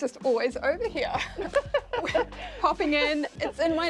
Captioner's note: both laugh